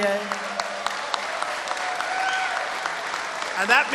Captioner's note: applause